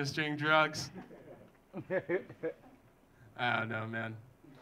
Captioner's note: audience laughing